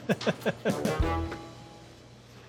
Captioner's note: chuckling